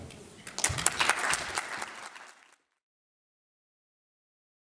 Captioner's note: audience claps